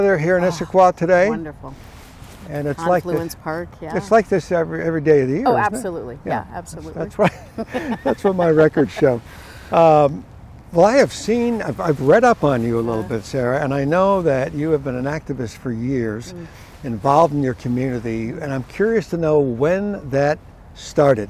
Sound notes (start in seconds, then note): 7.2 both laughing